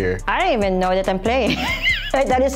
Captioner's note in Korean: 웃음